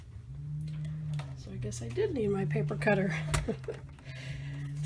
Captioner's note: laughing